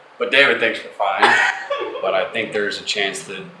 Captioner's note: laughing